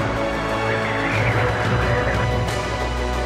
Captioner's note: wind howling